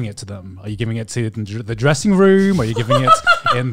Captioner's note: laughs